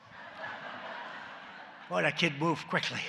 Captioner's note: laughter